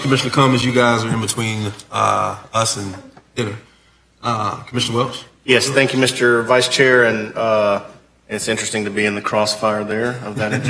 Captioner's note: laughter